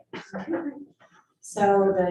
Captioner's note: presenters laugh